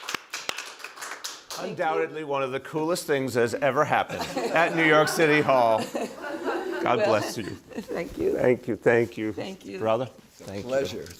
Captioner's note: applause